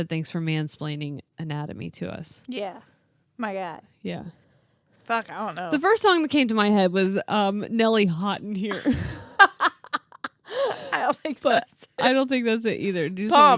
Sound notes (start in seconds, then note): 8.7 laughing